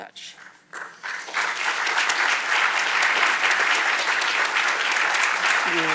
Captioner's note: audience applauding